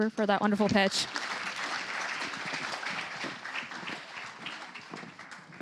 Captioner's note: applause